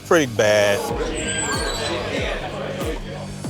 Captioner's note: door squeals